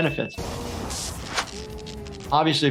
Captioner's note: electricity crackles